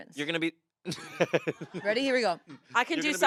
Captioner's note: laughs